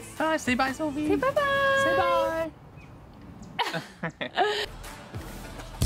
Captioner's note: laughing